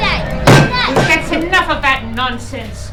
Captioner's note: a hard thud